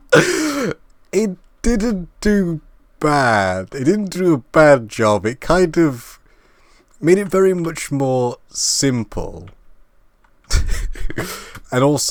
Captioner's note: laugh; laugh